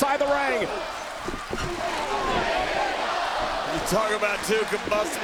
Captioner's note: audience chanting and clapping